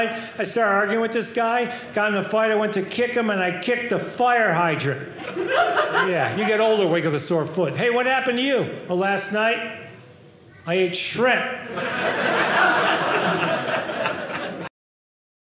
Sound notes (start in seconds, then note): 11.6 audience laughing